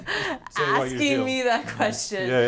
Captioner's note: laughing